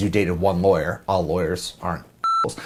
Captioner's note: beep